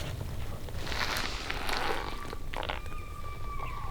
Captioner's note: elk bugling